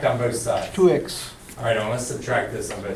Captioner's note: voiceover